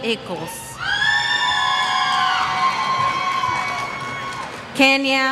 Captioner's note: cheers